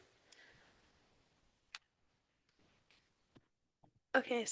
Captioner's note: mouse clicks